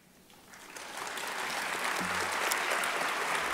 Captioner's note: applause